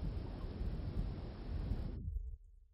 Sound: sound Of Breeze

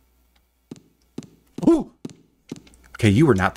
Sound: monkey sound

